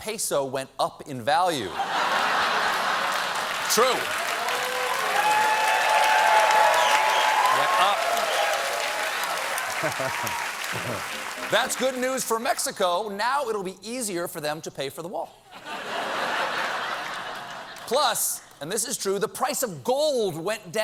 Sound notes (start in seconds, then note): 0.1 applause; 0.1 laughter; 1.8 cheers